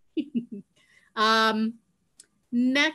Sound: chuckling

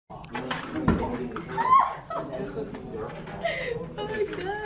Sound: class discussion

